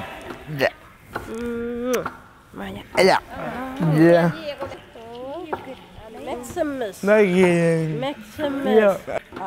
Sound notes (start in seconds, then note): 1.8 sound of kiss